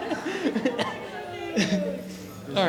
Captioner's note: laughing